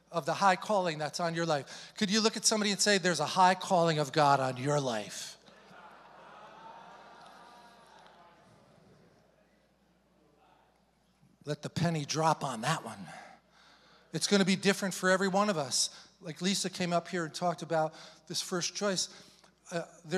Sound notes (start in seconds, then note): 5.4 congregation chattering indistinctly